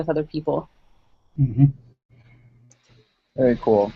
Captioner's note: vocalization of agreement